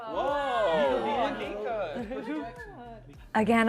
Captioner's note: excited chatter